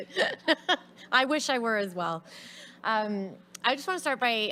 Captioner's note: woman laughs; laughs